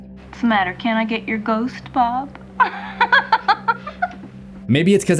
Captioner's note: laughs